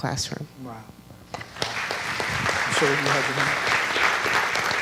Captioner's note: audience clapping